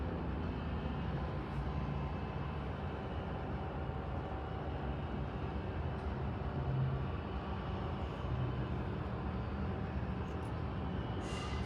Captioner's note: air brakes hissing